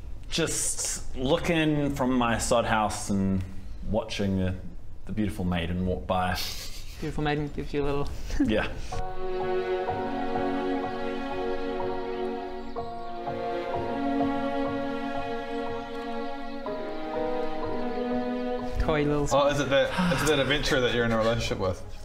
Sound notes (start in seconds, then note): 6.4 teehee; 9.2 charming and sweet music